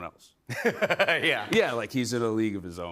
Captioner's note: laughs